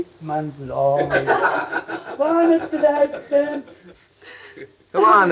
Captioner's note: all laughing